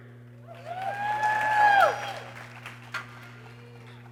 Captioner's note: people cheering